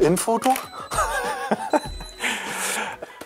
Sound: laughs

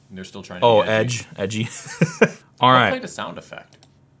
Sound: laughs

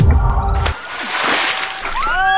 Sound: water splashes; screams loudly

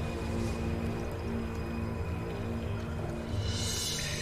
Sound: eerie music; water drops falling

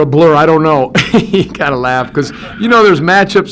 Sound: laughs

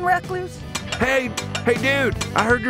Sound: plates clattering

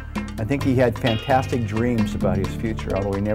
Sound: voiceover

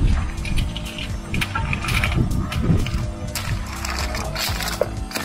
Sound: bright electronic music; wind whooshing; gravel rustling

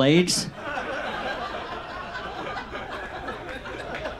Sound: audience laughs

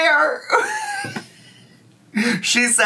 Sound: laughing

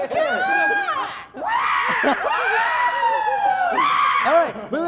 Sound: show off their powerful cries

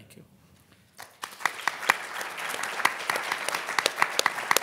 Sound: audience applauding

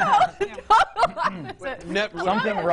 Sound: laughing

